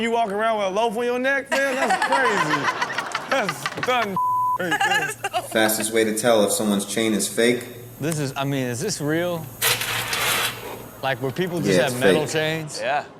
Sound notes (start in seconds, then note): 1.5 everyone laughs